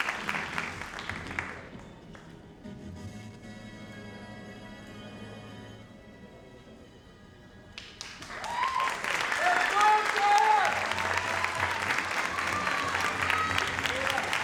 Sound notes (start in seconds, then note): 7.8 audience cheers and applauds